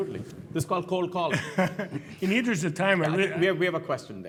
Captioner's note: laugh